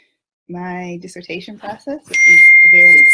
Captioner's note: dinging notification